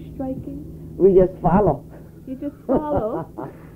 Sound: laughs

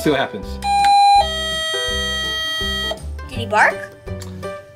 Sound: doorbell chiming

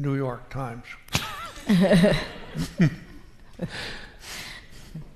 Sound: laughs

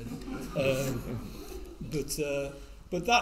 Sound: all laughing

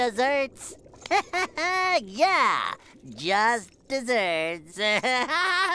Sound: laughing

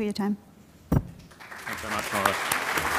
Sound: audience applause

